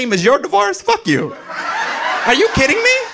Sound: audience laughing

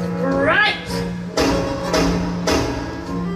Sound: three knocks

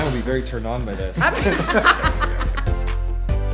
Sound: laughter

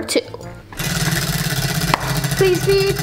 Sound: wheel clicking

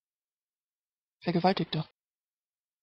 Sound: fast Pronunciation

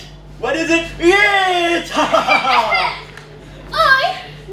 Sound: laughs

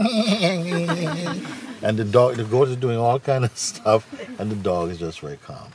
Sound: meckert

